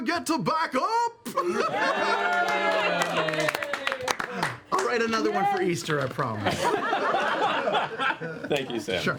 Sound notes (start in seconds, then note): 1.6 cheering; 6.4 laughter